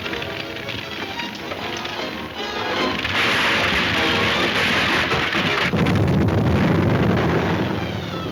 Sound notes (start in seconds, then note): 2.4 crashing; 5.1 exploding